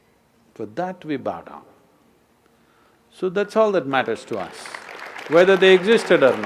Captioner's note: applause; 掌聲